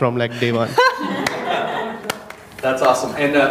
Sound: audience laughing

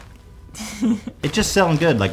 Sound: Hila giggles

